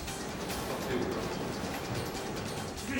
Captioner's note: gunman speaking French; speaking French; gunman speaking French